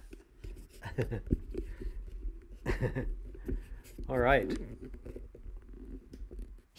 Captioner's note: chuckle